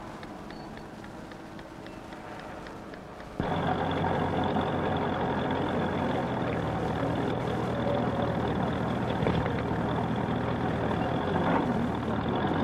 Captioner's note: cars rumbling